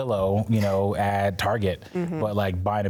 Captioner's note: laughs